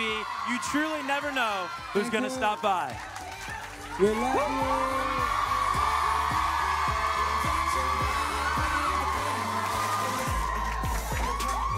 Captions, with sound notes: You truly never know who's gonna stop by. - We love you. (cheering)